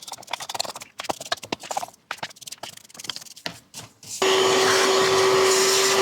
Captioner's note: motor whirring